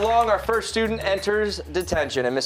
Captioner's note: applause